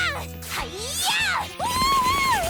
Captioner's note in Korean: 니아 기합 소리